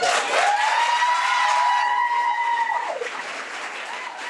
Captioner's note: audience cheering